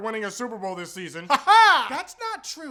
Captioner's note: weird laughing